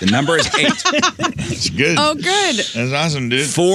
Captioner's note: laughing